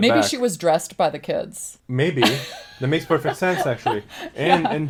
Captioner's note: laughs